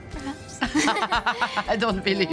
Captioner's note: laughs